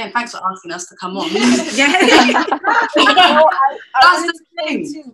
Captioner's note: laughter